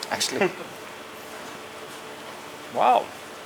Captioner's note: chuckles